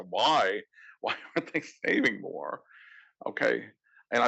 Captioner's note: laugh